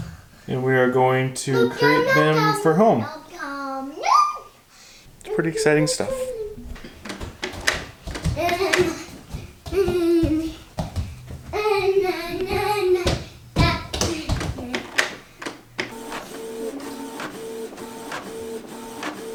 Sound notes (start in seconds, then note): 4.0 squeals; 6.6 footsteps skipping; 7.4 vocalizing; 16.1 printer whirring